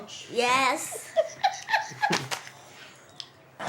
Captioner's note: laughing